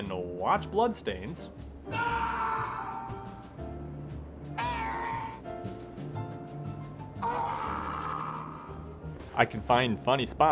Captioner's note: screaming